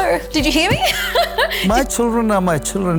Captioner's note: Maria laughing